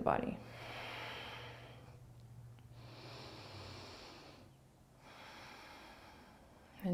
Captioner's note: breathing